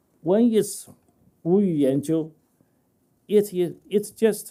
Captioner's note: speaking chinese